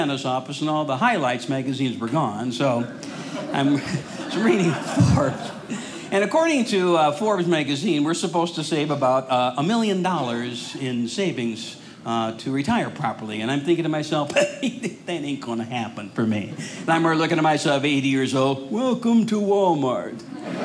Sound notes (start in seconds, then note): 16.4 audience laughing; 20.2 audience laughing